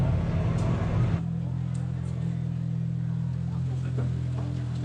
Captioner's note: engine revving